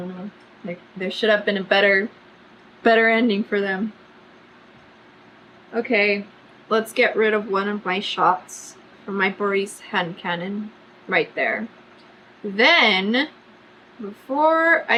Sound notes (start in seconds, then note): none